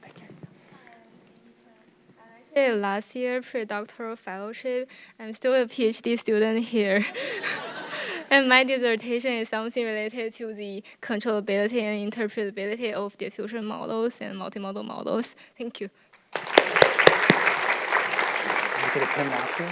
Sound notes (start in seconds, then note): 7.0 audience laughing; 16.2 audience clapping